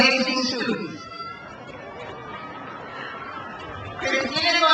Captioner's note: crowd cheers